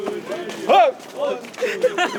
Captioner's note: shouts